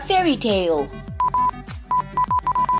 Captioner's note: affirmative beeping; authoritative beeping